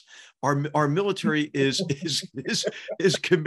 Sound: laugh

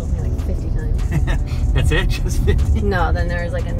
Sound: laughs

